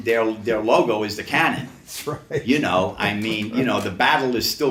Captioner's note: laughs